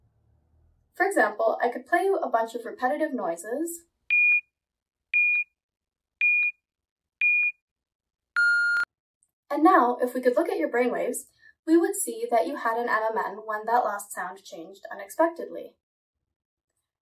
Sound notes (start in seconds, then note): 8.4 beeping